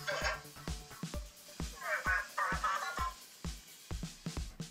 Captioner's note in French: Cozmo parle robot